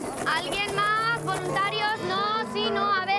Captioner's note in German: Sie spricht spanisch